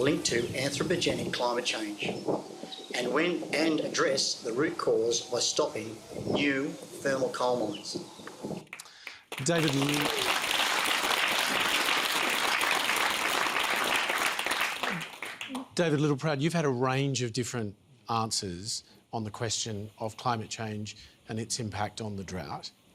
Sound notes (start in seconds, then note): 8.7 applause